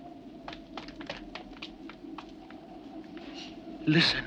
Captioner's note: footsteps tapping